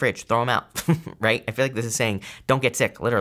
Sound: giggles

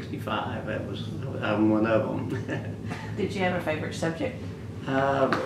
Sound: laughs

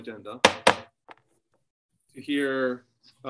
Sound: gavel bangs

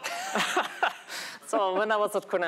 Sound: laughter

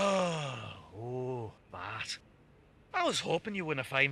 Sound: sighs

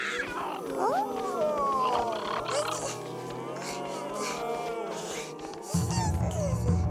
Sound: squawking; moaning

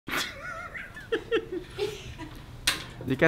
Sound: laughter

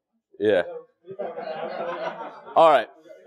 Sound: laugh

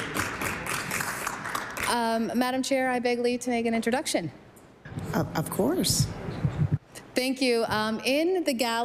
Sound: applause

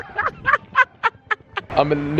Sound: laughing

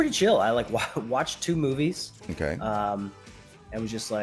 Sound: laugh

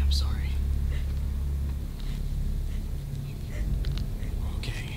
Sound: turtledove panting

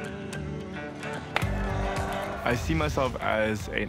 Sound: crowd cheers; ball taps

